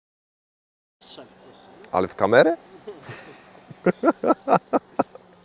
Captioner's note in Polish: śmiech